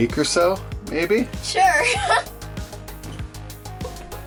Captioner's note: giggles